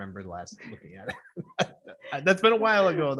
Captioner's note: people laughing